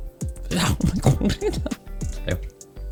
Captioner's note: laughs